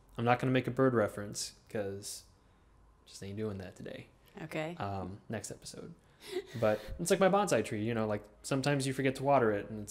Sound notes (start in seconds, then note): 6.2 laughing